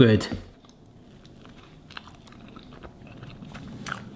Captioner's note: slurping